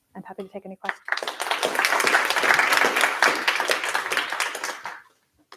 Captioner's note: applause